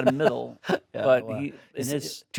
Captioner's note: Stellan laughs